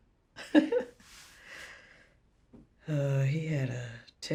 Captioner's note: chuckles